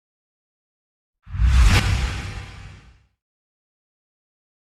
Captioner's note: logo whooshing